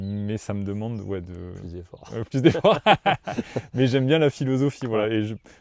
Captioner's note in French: rires